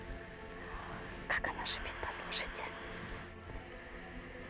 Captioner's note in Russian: шепот